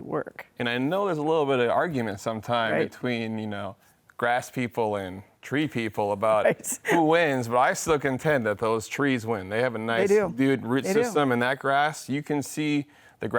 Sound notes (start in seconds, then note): 6.8 laughs